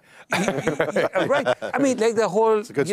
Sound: laughs

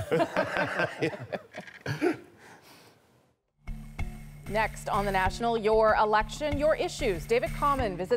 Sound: laughter

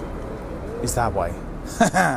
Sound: laugh

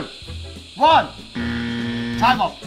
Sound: incorrect buzzer

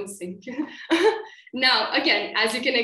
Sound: laughter

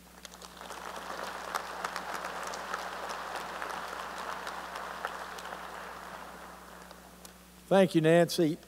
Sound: applause

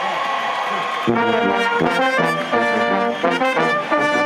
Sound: cheers and applause

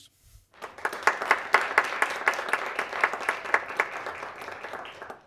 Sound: people clapping

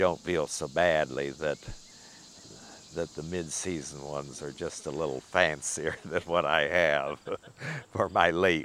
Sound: laughing

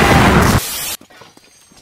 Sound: boom; static

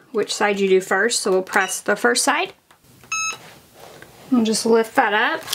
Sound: machine beeps

